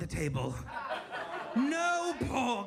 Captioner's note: audience laughs